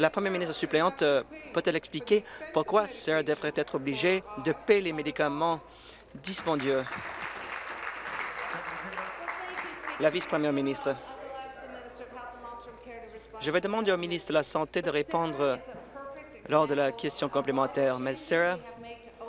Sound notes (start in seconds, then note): 9.7 applause